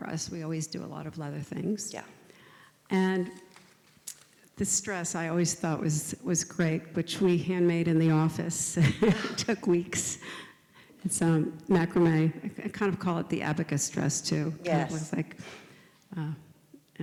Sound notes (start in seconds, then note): 8.8 chuckles